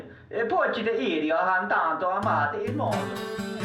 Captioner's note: foreign Language Spoken